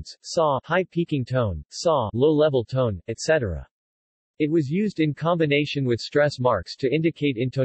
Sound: low level tone

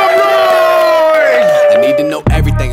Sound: sound of cheering

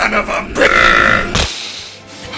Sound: uuuuurp

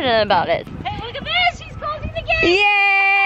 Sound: laughs

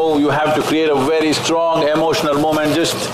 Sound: none

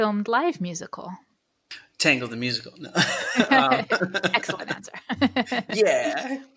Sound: laughter

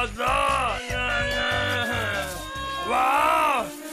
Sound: Bunny crying

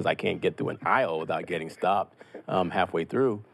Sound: laughs

